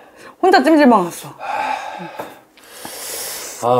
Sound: sigh

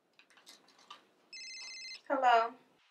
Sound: cellphone ringing

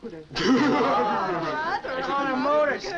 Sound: laughing

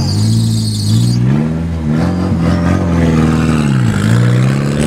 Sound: engine revving

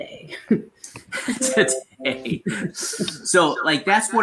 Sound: laughs

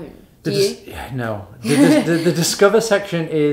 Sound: laughing

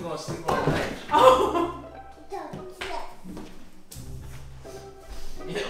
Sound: laughs

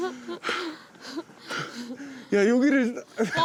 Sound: huffing

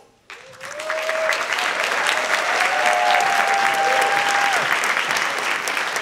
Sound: audience clapping and cheering

